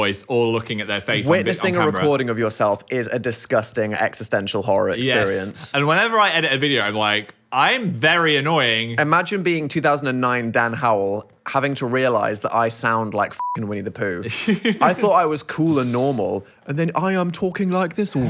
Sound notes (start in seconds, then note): 13.4 beep